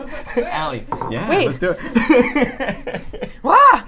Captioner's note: laughs